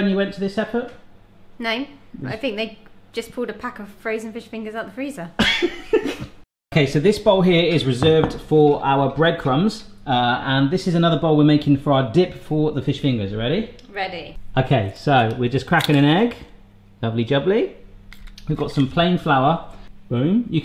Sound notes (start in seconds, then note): 5.5 laughing